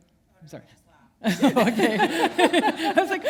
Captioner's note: laughter